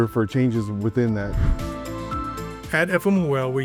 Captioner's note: transition whooshing